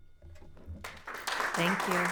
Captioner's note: audience applauds